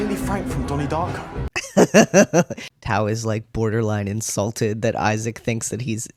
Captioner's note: laugh